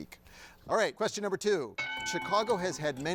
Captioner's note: bell dings